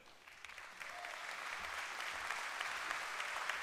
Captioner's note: applause